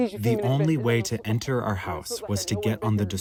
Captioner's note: through translator